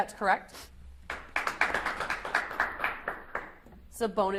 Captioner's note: audience applauds